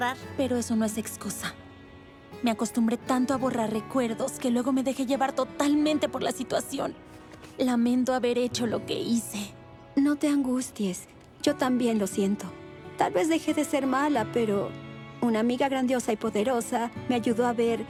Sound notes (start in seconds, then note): none